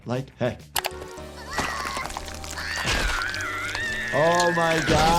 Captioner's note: Sniffles screaming